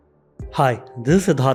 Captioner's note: speaks in Hindi